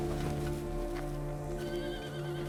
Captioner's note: horse neighing